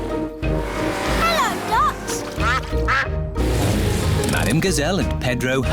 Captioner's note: quacking